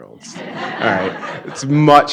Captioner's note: audience laughing